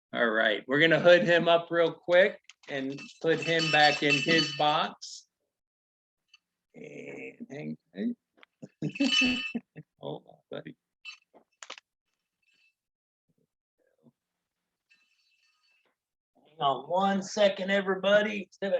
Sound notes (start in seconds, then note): 8.6 laughing